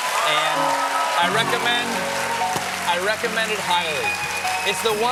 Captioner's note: cheers and applause